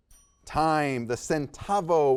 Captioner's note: timer dings